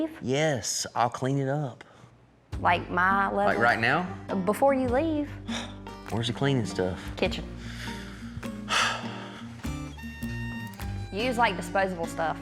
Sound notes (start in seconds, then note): 8.6 sighs